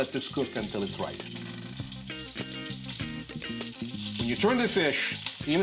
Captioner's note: jazzy music; sizzling